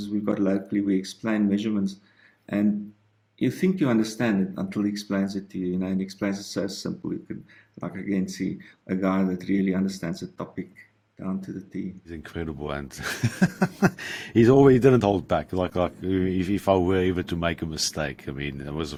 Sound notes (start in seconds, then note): 13.0 giggles